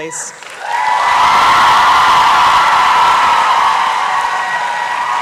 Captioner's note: applause and cheering